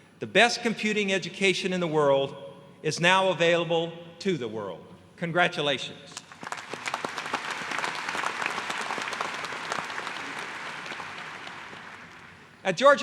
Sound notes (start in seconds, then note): 6.1 applause